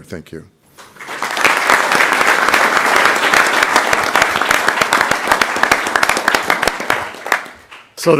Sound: applause

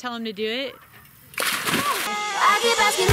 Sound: splashing

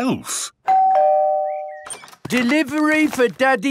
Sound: door bell ringing

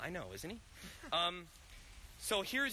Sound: laughs

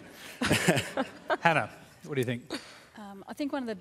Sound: laughter

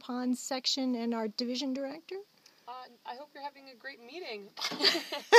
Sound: both laughing

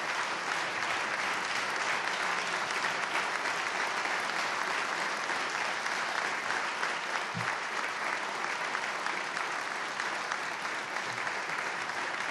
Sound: applause

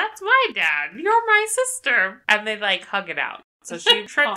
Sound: laughs

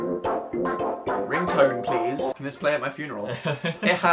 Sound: laughs

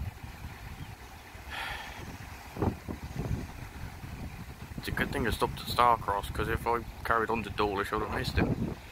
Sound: sighing

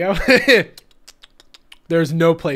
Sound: tongue sounds

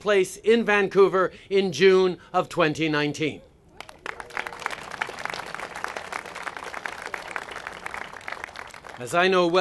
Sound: applause

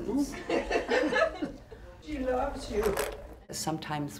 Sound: elderly people laughing

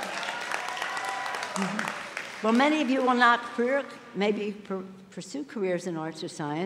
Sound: applause

